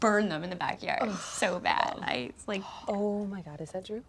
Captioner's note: Ashley groans